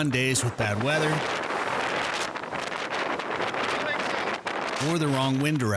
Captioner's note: wind blustering